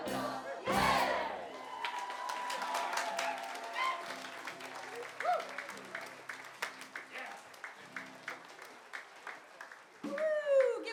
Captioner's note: applause